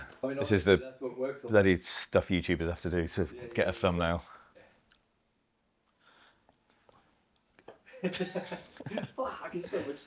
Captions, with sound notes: I mean, that's what works on me. This is the bloody stuff YouTubers have to do to get a thumbnail. (laughs) Bloody stuff.